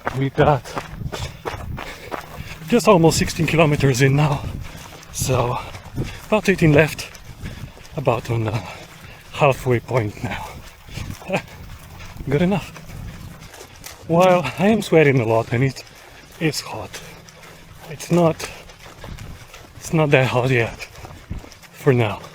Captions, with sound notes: We got just about 16 kilometers in now. So about 18 left, about on a halfway point now. (laughs) Good enough. While I'm sweating a lot and it's hot, it's not that hot yet... for now...